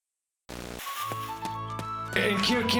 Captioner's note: static